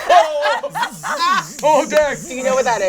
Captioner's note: all laugh